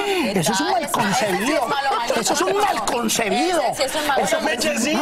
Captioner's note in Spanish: risas